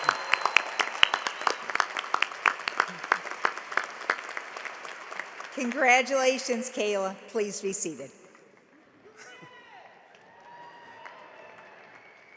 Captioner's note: cheering and applause